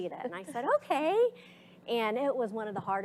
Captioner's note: slight chuckles